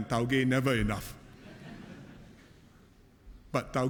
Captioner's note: laughter